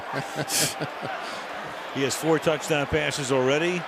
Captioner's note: laughter